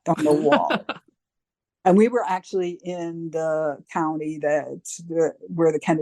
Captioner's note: chuckle